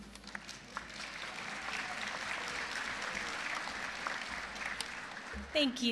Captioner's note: applause